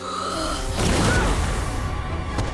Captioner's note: grunting